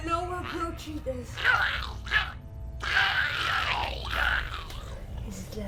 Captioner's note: Giree growling